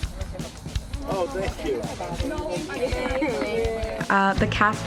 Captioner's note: indistinct chatter